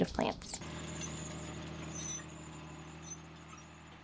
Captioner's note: motor rumbling